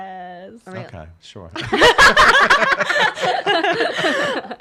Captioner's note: laughs